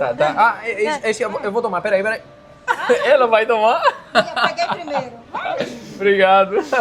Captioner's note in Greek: γέλια